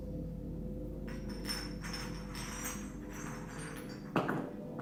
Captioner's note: glass clinking